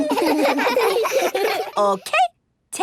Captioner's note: giggles